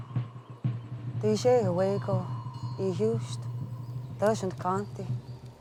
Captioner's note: woman speaking Cherokee